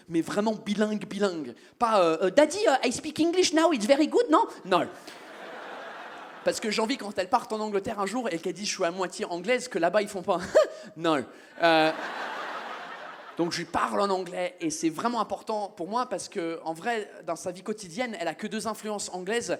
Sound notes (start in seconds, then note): 2.5 French accent